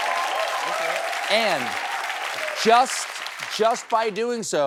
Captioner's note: cheers and applause